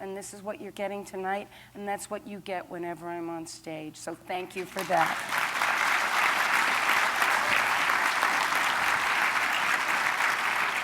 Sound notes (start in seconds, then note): 4.6 applause